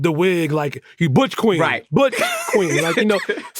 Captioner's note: laughs